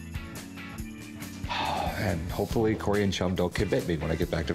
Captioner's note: sighs